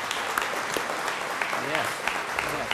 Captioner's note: crowd applauding